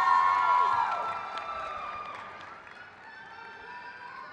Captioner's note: crowd cheers